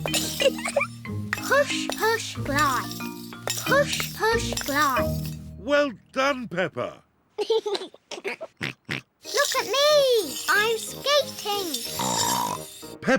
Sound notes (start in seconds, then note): 0.3 giggles; 7.4 giggles; 11.8 snorts